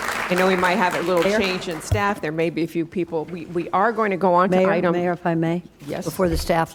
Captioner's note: applause